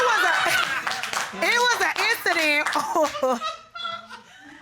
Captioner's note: chuckles